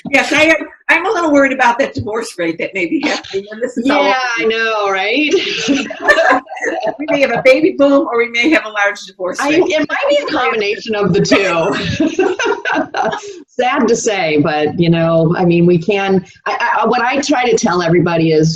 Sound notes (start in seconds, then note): 5.3 laugh; 11.5 laughs